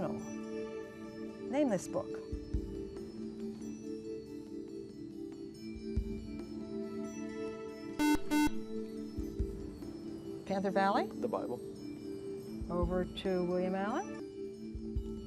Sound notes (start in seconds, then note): 8.0 buzzer